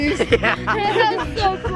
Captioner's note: kids laughing